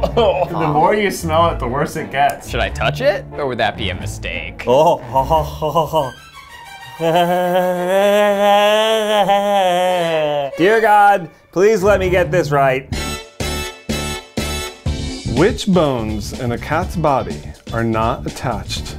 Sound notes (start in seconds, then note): 0.0 coughs; 4.8 man growling; 11.6 upbeat music